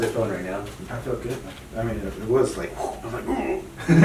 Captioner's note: imitates another noise; imitates noise